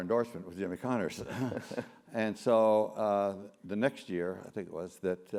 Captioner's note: laugh